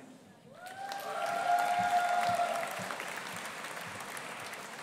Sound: audience applauding

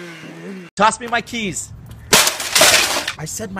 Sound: crash

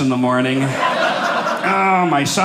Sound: audience laughing

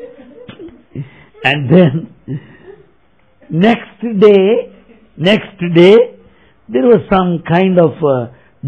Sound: laughter

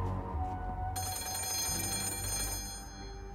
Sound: classic phone rings

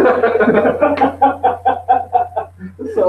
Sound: laughter

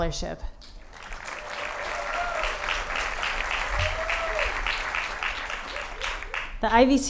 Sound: applause

